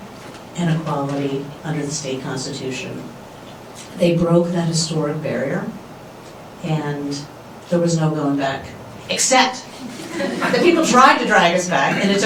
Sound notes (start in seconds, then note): 9.8 laughter